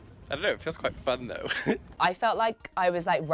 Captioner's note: laughs